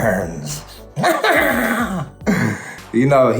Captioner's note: laughs